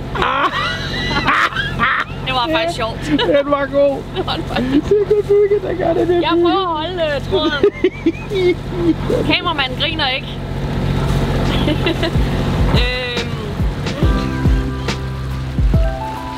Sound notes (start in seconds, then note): 0.1 goes into a hysterical laugh; 7.4 the hysterical laugh continues; 11.4 laughs